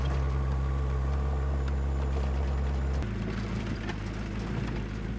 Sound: forklift engine revving

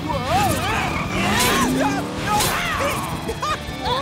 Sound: yelling

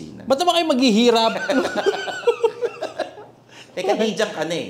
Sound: both laugh

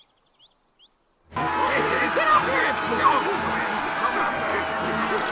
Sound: angry yelling

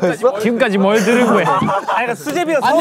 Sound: cracks up

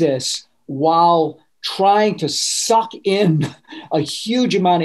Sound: laughing

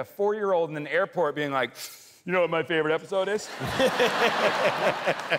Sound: inhales

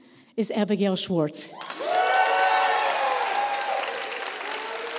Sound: applause

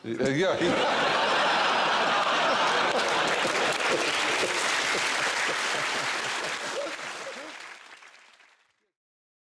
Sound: laughter, applause

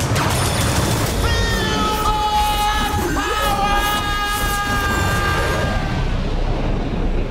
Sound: yelling

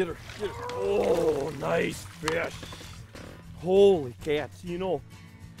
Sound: grunting

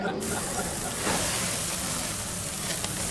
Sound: meat sizzling

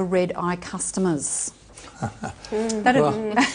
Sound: chuckling

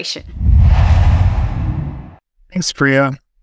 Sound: logo swooshes

